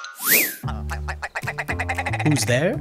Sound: chime, whistle; rapid, nasally cluck

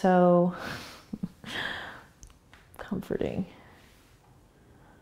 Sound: laughs

